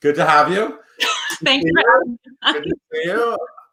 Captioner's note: laughs